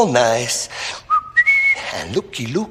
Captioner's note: whistles